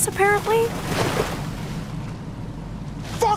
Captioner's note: water splashing